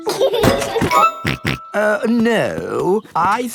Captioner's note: laughs and snorts